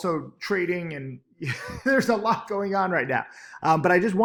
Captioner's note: laughs